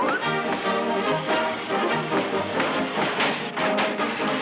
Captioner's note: doors thudding; doors clattering